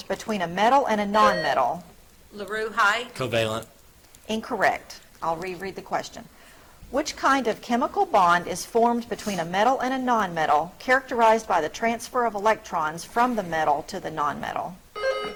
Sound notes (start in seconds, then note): 1.2 buzzer trills; 14.9 buzzer trills